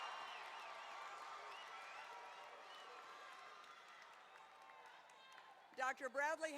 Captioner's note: cheering and applause